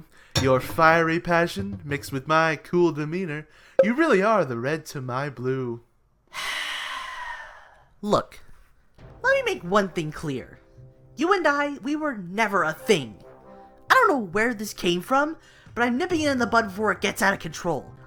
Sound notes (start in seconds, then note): 6.2 Pitchfork sighs